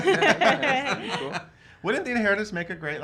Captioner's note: all laugh